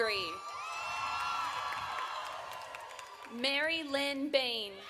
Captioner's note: audience cheering